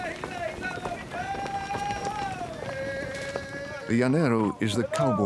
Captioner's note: yelling in Spanish